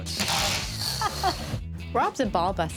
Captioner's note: laughs